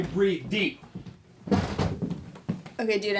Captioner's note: door slams